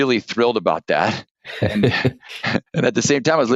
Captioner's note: laughter